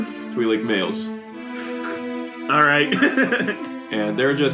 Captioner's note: laughs